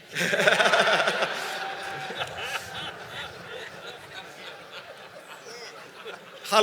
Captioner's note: laughter